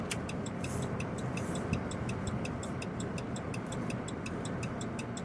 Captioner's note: turn signal blinking